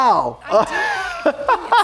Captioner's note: laughs